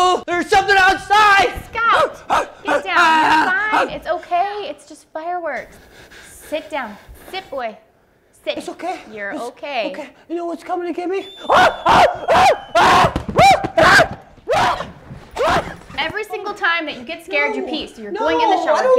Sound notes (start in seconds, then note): 2.2 scout barking; 11.3 scout screaming